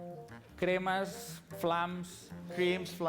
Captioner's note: non-english speech